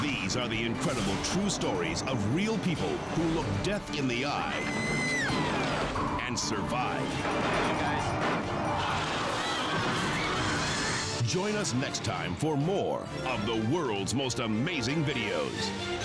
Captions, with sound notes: These are the incredible true stories of real people who look death in the eye and survive. (helicopter crashing) (onlookers screaming) Join us next time for more of "The World's Most Amazing Videos."